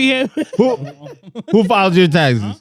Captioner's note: laughing